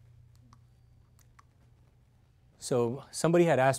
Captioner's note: slides Clicking